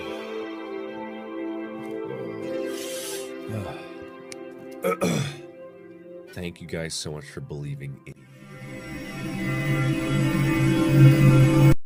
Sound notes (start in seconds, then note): 1.9 sighs; 2.0 sniffs his tears back into his nose; 4.8 another sigh